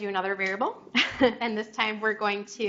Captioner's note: chuckles